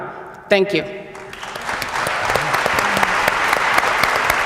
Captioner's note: applause